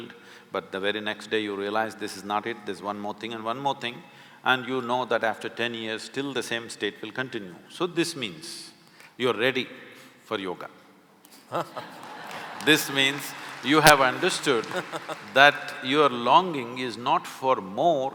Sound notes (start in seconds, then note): 11.5 laughter/Applause